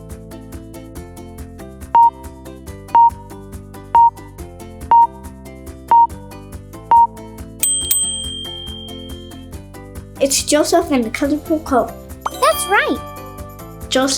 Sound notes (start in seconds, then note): 2.0 timer beeping; 7.6 bell dings; 12.2 chimes ring